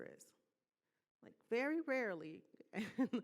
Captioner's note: laughing